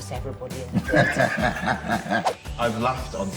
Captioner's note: laughs